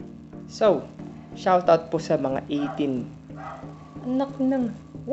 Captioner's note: rahw rahw